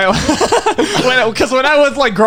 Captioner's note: laughing